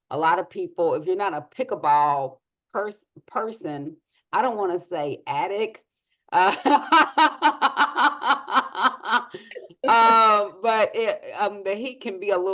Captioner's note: laughs